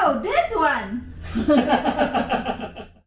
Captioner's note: laughter